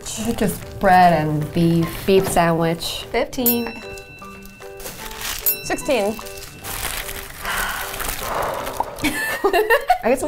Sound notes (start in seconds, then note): 7.3 sighing; 9.0 giggling